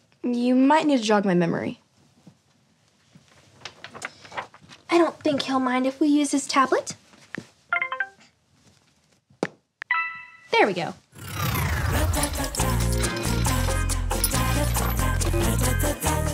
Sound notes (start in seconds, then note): 7.8 tablet beeping; 11.6 relaxed music